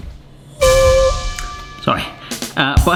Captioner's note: whistling sound